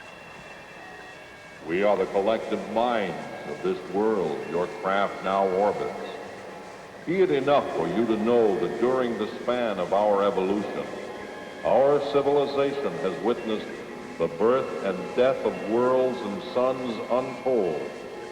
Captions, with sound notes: - [Disembodied Voice] We are the collective minds of this world your craft now orbits. Be it enough for you to know that during the span of our evolution, our civilization has witnessed the birth and death of worlds and suns untold.